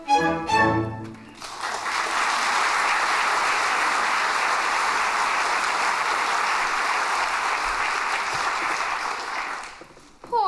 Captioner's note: applause